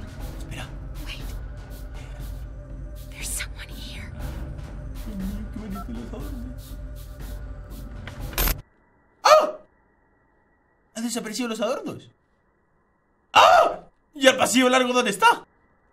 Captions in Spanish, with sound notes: Espera! Ay, mira que bonito los adornos Oh! Han desaparecido los adornos! (Grita) Y el pasillo largo. Dónde está?